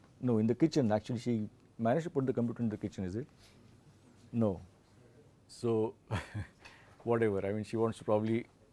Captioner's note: laughs